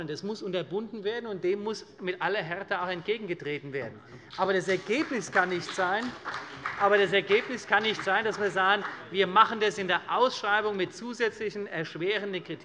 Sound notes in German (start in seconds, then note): 4.2 Beifall bei der CDU und dem BÜNDNIS 90/DIE GRÜNEN